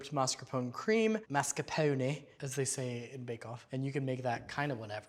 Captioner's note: british accent